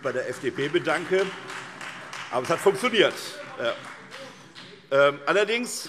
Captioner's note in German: Vereinzelter Beifall SPD, BÜNDNIS 90/DIE GRÜNEN und Freie Demokraten